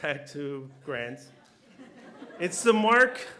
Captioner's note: laughter